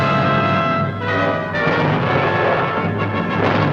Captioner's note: explosion